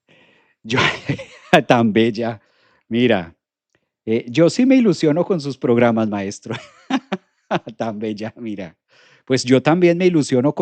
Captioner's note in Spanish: risas